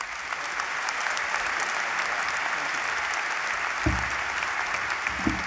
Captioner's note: applause